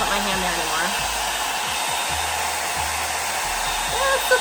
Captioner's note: dryer whirring